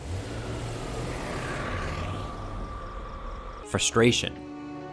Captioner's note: tires screech